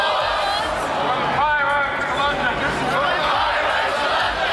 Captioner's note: crowd repeats